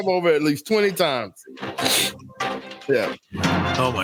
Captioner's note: laughing